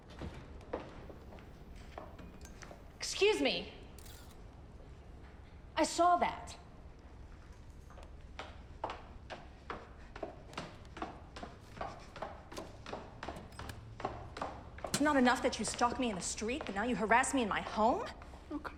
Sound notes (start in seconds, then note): 0.2 shoes clacking; 4.1 camera shutter clicks; 10.1 shoes clacking